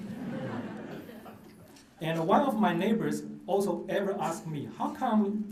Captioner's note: laughter